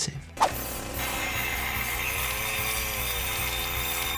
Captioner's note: chainsaw rattling